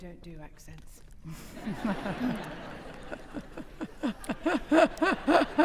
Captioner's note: audience laughing